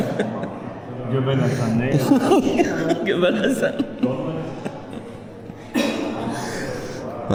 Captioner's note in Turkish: kahkaha